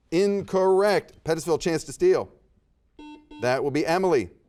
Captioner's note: buzzer beeps